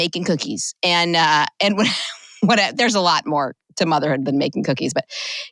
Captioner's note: chuckle